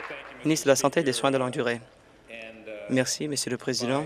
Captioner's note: applause